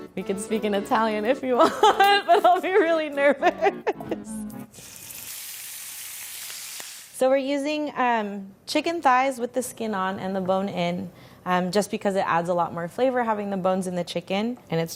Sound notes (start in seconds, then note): 3.3 laughing; 4.7 chicken sizzling